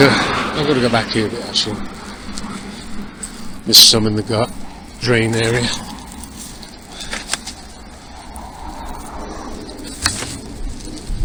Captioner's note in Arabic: أصوات حركة المرور